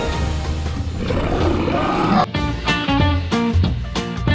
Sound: beast roaring

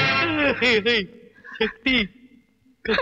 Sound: stammering

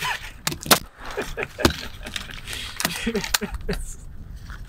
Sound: laughs

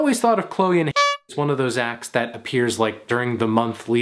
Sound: clown horn toots

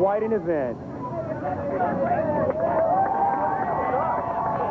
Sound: crowd cheering

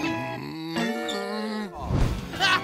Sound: groaning

